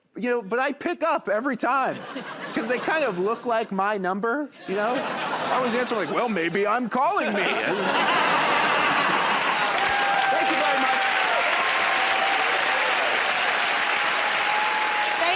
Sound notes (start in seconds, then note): 7.0 laughter; 11.7 cheering and applause